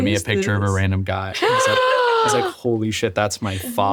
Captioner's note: gasps